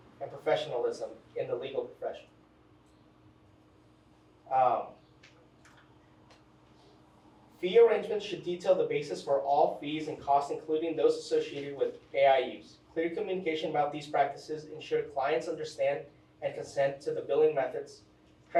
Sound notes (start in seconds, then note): 5.9 pointer clicks